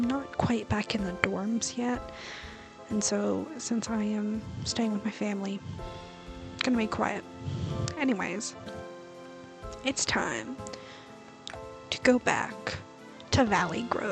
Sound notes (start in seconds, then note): 7.2 annoying breath into the mic